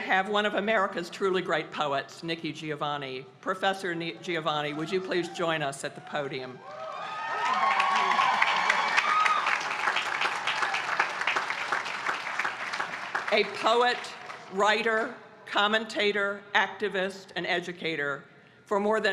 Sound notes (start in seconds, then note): 6.6 applause